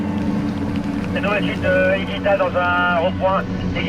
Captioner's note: man speaking foreign language over radio